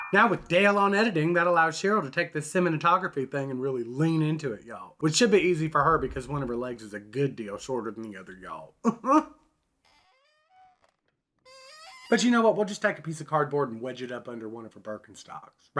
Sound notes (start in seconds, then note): 8.8 chuckles